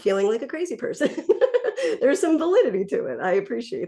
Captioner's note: laughs